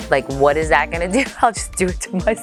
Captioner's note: laughs